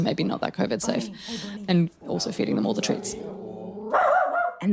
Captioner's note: dog barks